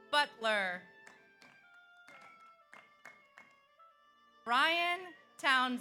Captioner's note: audience cheers; audience applauds